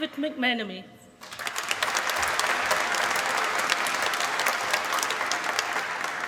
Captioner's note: applause